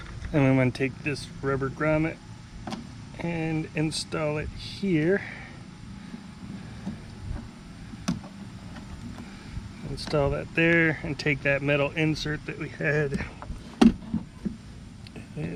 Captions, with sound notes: And I'm going to take this rubber grommet and install it here. (plastic and rubber rubbing) Install that there and take that metal insert that we had.